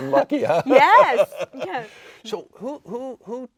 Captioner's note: laughing; laughs